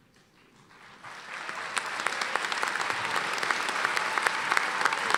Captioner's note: cheering and applause